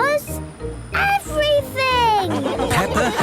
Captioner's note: laughing